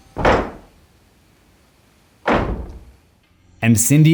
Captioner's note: knocking sounds